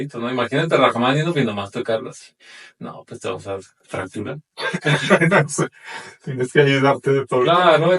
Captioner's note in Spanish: risas